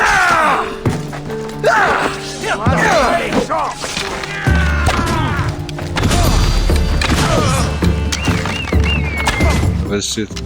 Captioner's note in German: schreien; stöhnen